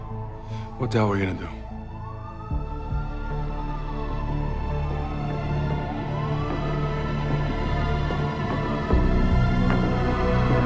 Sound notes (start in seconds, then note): 2.8 sirens wailing; 5.2 dramatic music